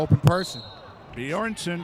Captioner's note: referee whistling